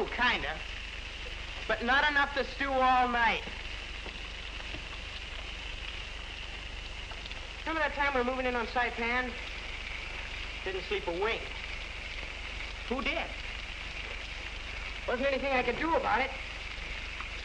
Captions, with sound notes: I do, kind of. But not enough to stew all night. [Water sounds.] Remember that time we were moving in on Saipan? Didn't sleep a wink. Who did? Wasn't anything I could do about it.